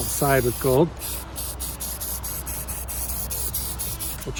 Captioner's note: spray can spraying